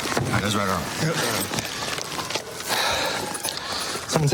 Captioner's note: sirens blaring